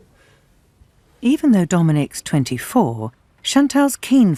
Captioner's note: voiceover